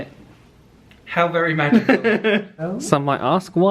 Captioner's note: laughs